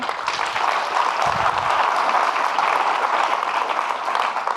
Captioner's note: audience clapping